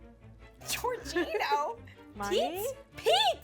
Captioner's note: chuckles